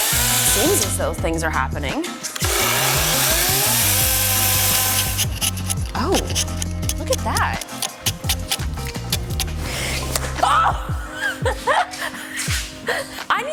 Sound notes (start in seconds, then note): 2.3 chainsaw whirring; 5.0 chisel scraping; 7.8 chisel scrapping; 10.3 laughs